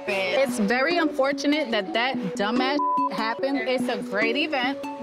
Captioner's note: beep